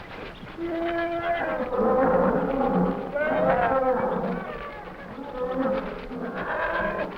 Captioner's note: animals chattering; jaguars growling